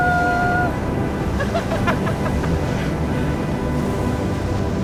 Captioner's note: both laughing